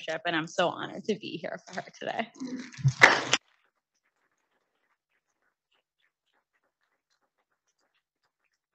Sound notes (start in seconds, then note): 3.0 audience applauding